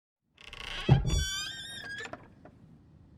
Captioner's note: lid creaks